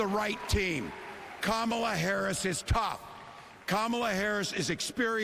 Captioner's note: applause